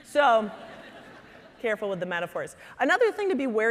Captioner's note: audience chuckling